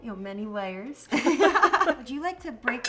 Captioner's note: both laugh